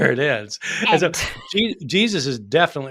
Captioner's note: chuckling